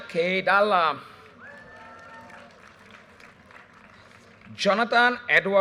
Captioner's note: audience cheers and applause